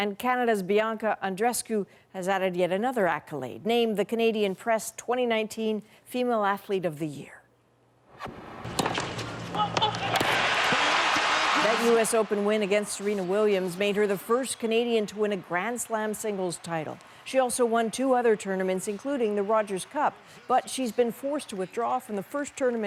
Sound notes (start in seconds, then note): 11.0 cheers and Applause